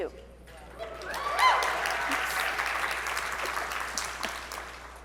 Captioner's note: audience cheering